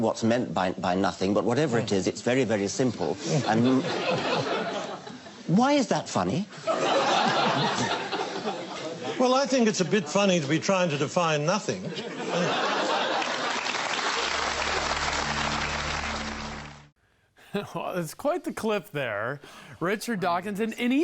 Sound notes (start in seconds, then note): 3.1 audience laughs; 6.6 audience laughs; 12.5 audience applauds; 13.2 audience laughs